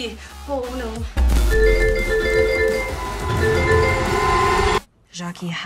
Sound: notifications ping frantically

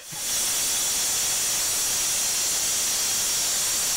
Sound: router whirs

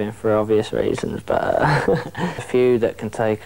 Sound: laughs

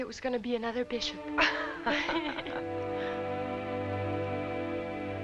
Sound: both laughing

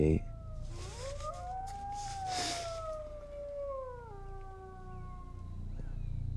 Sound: howling continues

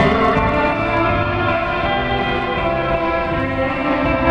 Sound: distant tripod horn

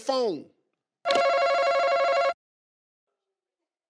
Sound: ringing

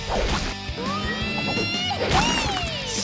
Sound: cheering

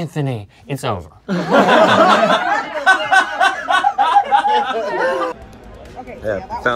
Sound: laughter

